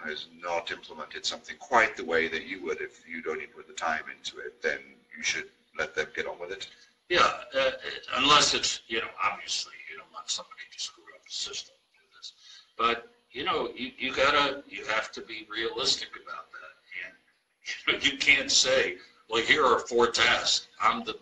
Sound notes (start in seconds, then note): 12.6 murmurs